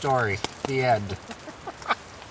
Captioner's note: laughs